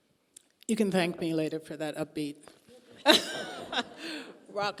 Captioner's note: laughing